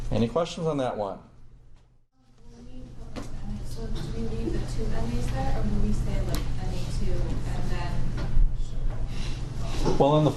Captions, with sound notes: Any questions on that one? (soft talking)